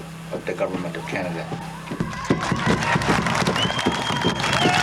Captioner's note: applause and cheering